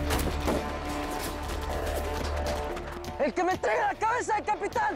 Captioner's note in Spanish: Disparos